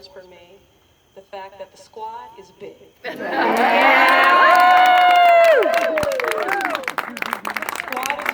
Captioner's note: cheers and Applause